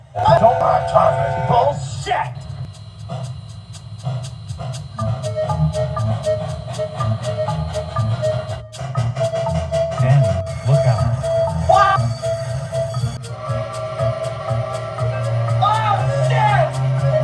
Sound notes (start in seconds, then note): 10.0 train brakes squealing; 13.3 Distant Reading 6-chime; 16.9 Distant Reading 6-chime